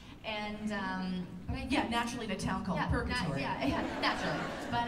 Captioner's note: laughter